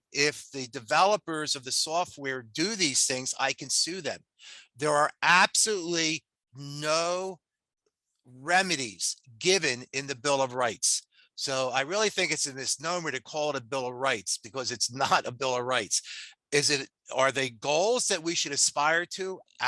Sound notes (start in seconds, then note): 15.2 laughs